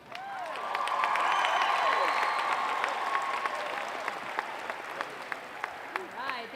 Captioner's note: applause and cheering